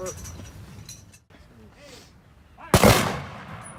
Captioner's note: gunshots